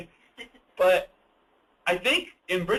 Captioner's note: lauging